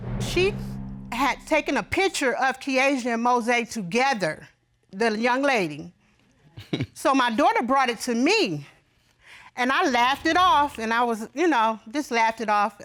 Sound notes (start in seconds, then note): 6.5 laughs